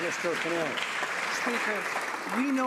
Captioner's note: some Applause